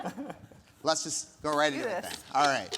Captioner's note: speakers laughing